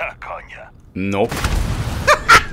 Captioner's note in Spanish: Explosión